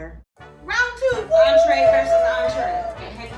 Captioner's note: whooping